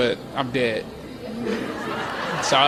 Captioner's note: laughter